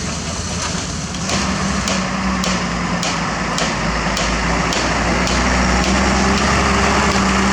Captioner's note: truck Engine